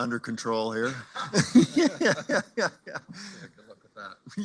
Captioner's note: laughter